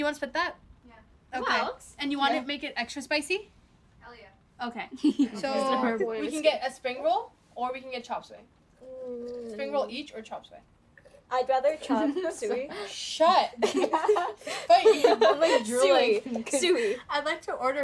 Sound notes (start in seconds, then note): 13.6 laughter